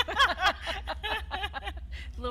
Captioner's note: laughs